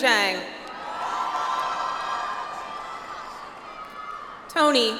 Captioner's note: audience applauds